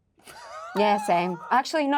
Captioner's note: Luke laughing